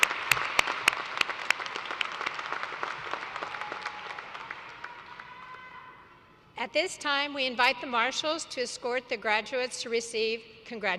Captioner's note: applause